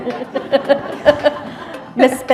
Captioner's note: laughter